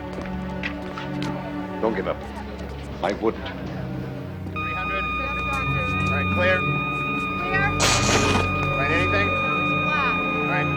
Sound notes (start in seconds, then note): 4.5 machine beeping